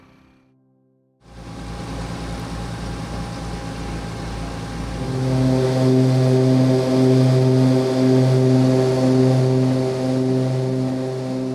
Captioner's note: aircraft sounds and music background